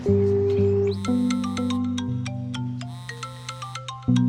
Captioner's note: phone rings